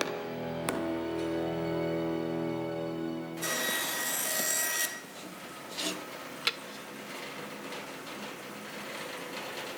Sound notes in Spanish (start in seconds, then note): 0.0 Música dramática; 3.3 Ruído de ferramentas elétricas